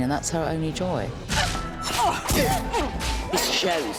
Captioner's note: both grunting